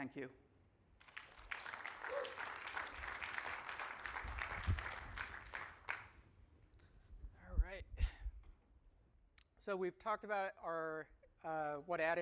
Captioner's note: applause